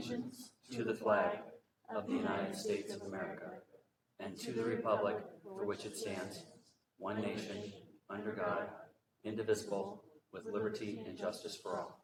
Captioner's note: reciting pledge of allegiance